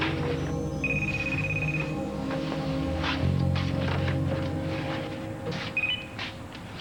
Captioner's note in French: Téléphone